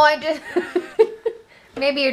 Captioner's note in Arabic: يضحك